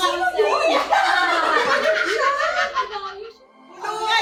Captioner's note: laughs